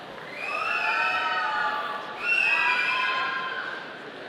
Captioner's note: audience cheering